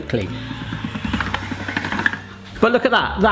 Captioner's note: pasta machine cranking